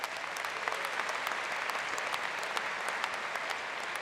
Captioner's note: applause